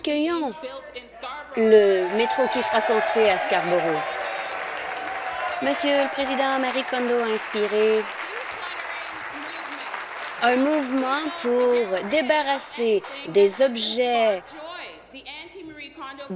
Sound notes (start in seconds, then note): 6.5 applause